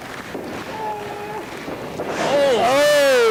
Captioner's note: yells